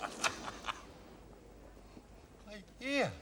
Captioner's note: laughing